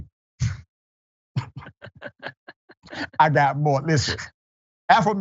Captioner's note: laugh